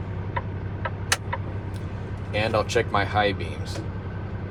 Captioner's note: indicator clicking